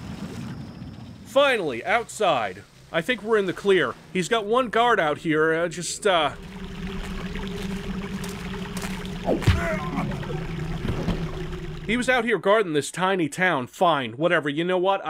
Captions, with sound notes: Finally, outside. I think we're in the clear. He's got one guard out here, just uh... *bonk* He was out here guarding this tiny town. Fine, whatever. You know what?